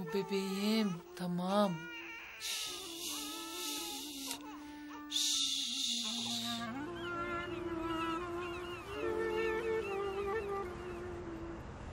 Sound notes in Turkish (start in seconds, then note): 2.0 bebek ağlama sesi̇